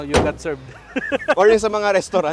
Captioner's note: laughs